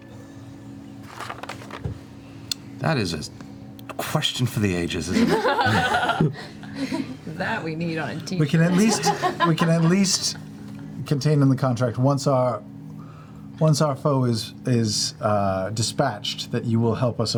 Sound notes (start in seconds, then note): 5.1 laughter